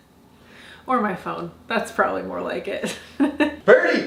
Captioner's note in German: lacht